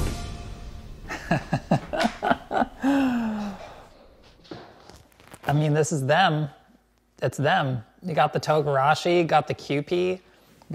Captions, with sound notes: [laughs] I mean this is them, it's them, they got the togarashi, got the QP,